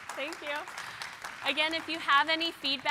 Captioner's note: applause